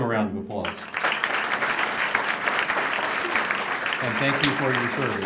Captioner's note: applause